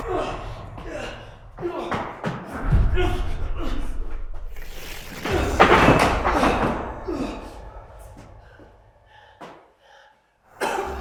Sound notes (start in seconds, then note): 0.2 Jacob groaning; 0.2 static crackles; 4.9 Jacob groaning; 4.9 ominous music; 10.5 Jacob coughs; 10.8 ominous music